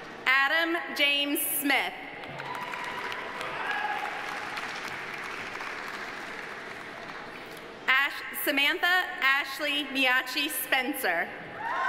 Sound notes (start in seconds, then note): 2.2 audience applauding; 2.3 audience cheering